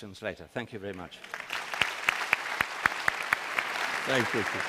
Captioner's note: applause